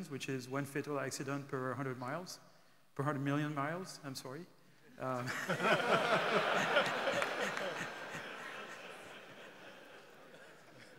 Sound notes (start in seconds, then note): 5.2 audience laughing